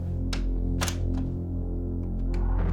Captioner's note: shutting door, lock